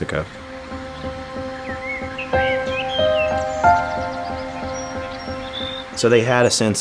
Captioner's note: birds chirping; soft piano music